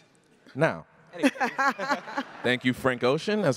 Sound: laughs

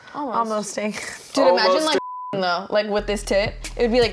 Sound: beep

